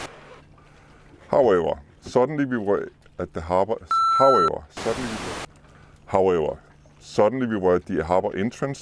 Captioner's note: beep